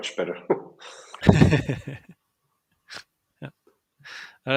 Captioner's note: laughs